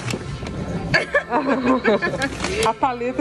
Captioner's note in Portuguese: risos